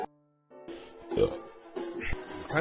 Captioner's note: burps again